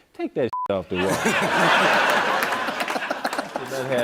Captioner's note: laughter